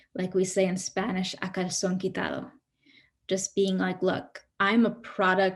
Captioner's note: speaks in Spanish